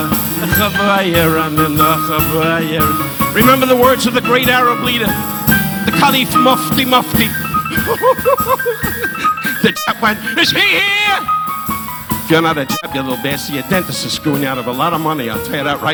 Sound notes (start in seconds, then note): 5.6 laughs